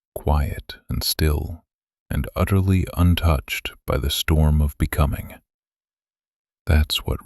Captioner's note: whisper